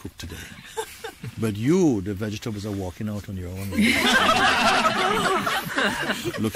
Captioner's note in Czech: smích